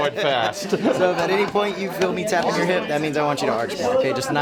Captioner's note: laugh